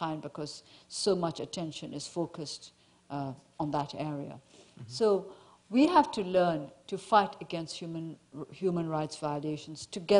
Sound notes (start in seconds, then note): none